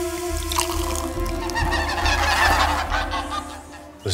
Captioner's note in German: Lautes Schnattern